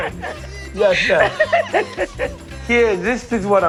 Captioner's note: laughs